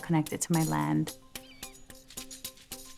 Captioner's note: bird cawing